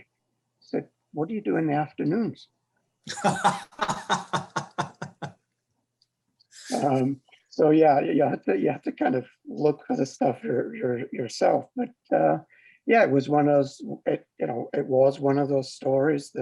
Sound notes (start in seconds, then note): 3.1 panelists laughing